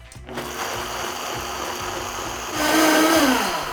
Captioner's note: blender whirling